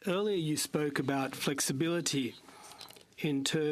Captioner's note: speaking french